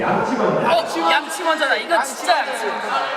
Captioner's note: all shout out brush first